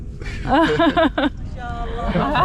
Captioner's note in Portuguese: risos